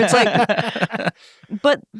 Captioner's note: everyone laughs